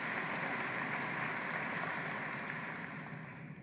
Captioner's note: applause